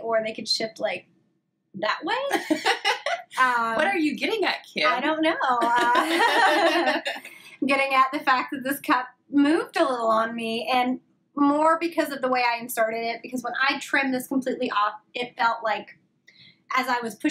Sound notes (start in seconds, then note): 5.6 laughs